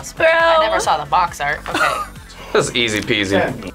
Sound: React laughs

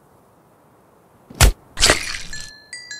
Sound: slams in to tree; explodes

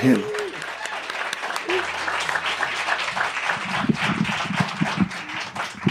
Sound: applause and cheers

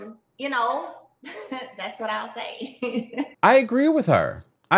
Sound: chuckles

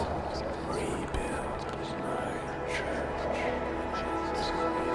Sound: voice whispers

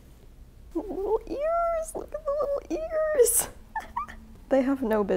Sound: giggling

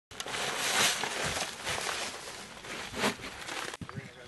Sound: shovel scraping

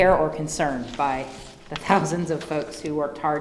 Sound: giggles

